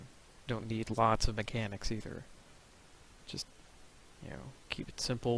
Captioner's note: none